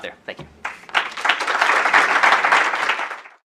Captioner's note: applause